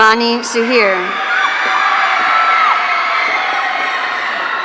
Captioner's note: audience cheering